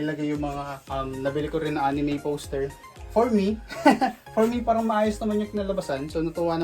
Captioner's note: laughs